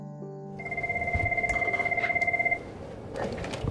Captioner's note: phone ringing